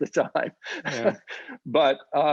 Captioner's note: laughs